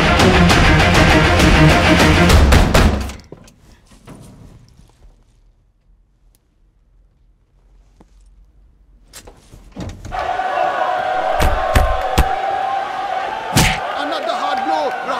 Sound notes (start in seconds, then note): 2.9 Cupboard door opens; 9.4 Cupboard door closes; 11.3 Boxing punch